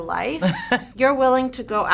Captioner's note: laughs